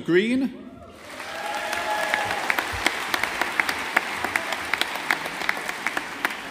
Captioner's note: audience applauding